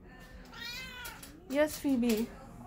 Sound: mrrrAAao

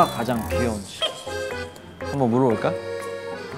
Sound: confident

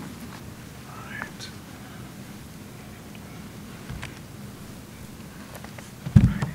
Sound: whispering

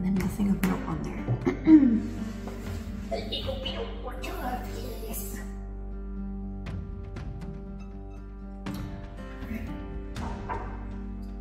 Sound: clears throat

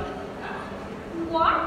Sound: spanish

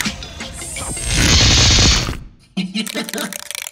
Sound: electricity crackling; Vend-L laughing

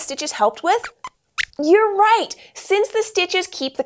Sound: squeaks squeaks

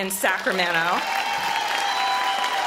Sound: audience applause

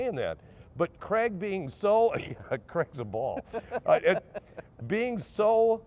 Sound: laughing

